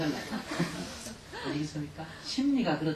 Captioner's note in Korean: 청중 웃음